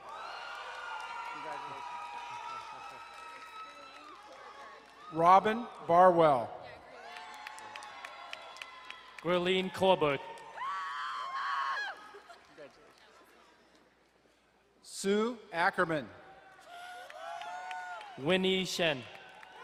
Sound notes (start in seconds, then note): 0.0 crowd cheering and applauding; 6.9 crowd cheering and applauding; 10.6 woman cheering; 16.5 crowd cheering and applauding